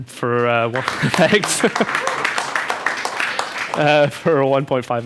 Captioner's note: crowd applause